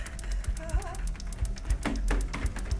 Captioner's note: Sue muttering; Sue whimpering; slaps thudding on door